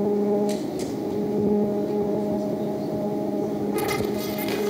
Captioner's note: buzzing